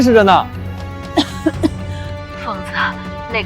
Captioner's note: cough cough